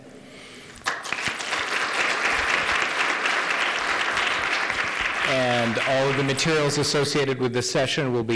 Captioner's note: applause